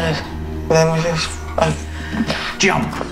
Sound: door opens

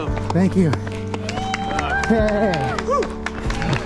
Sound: crowd cheering and applauding

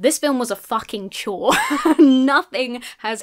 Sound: laughs

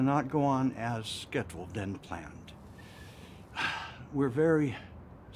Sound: sighs

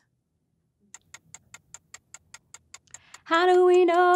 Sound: clock ticking

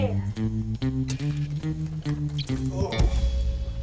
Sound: electric buzz

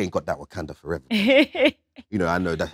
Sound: Letitia laughs

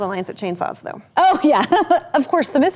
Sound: laughing

